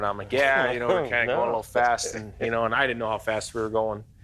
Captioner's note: laughs